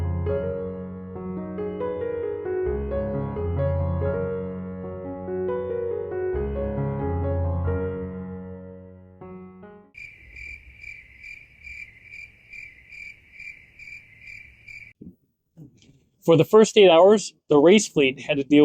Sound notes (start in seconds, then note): 0.0 gentle music; 6.3 crickets chirping